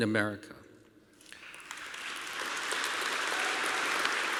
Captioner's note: applause